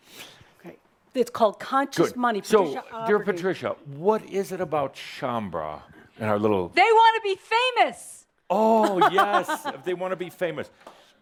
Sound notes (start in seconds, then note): 7.1 she shouts; 8.7 laughs